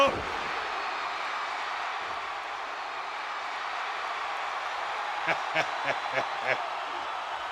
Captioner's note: applause; laugh; applause